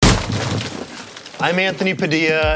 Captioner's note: ceiling crashes